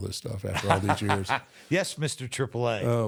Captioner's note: Michael laughs